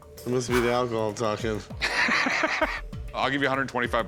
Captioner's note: laughing